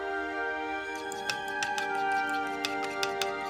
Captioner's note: egg beating